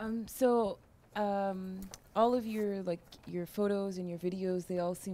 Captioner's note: voiceover